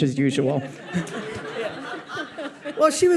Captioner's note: audience laughs